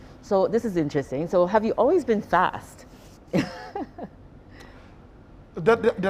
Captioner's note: chuckling